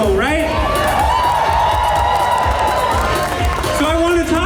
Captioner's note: cheers